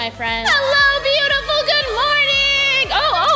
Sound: crowd cheering

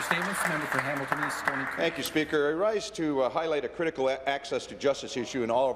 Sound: some Applause

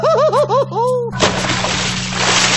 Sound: slpash

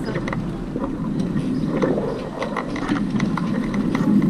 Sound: wind whirring

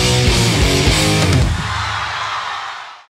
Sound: crowd cheers

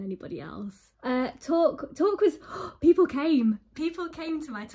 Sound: gasps

